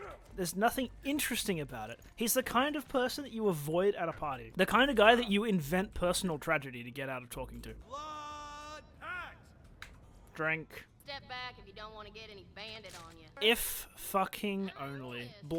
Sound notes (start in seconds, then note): none